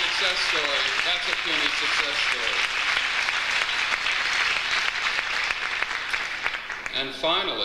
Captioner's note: audience applauds